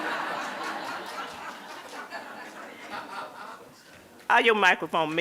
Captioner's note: crowd laughing